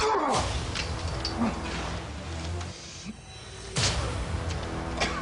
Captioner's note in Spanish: Quejido